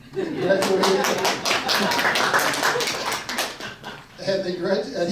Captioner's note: audience laughs and claps